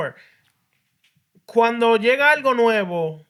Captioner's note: speaking Spanish